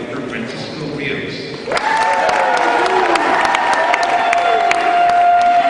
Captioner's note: cheering